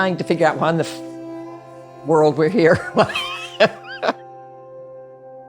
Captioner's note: laughs